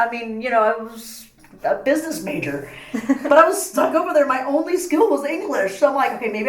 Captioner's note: laugh